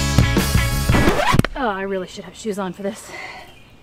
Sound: record scratch

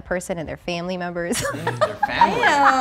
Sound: laughing

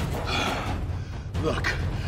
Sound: body banging; dad sighing

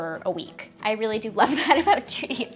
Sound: laughs

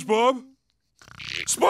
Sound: snoring

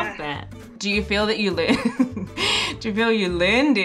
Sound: laughing

